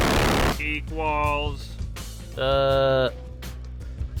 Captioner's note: glitching noise